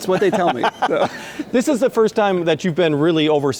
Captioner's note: laughing